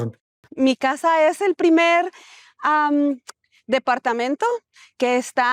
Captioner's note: speaking Spanish